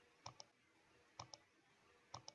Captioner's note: clicks